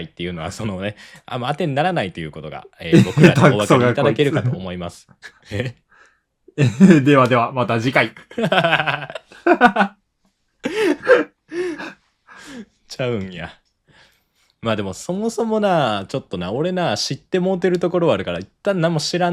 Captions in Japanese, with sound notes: っていうのはそのねあまあてにならないと いうことがえー僕らにお分かりいただける かと思いますえ ではではまた次回 [笑い] [息をのむ音] ちゃうんや までもそもそもなちょっとな俺な知って もうてるところはあるから一旦何も知らん